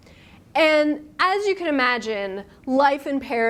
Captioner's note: none